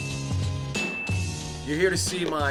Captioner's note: ding